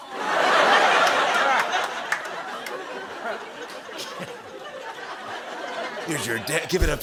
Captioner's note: laughter